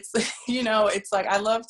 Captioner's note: laughing